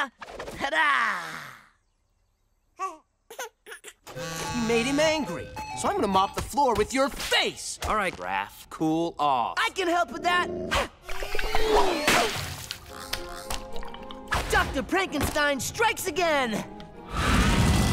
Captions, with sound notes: Ta-da. [giggling] [buzzing, chiming] You made him angry. So I'm gonna mop the floor with your face. All right, Raph, cool off. I can help with that. Dr. Prankenstein strikes again.